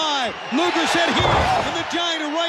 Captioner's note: body thudding